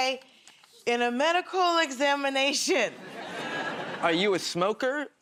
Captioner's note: nervously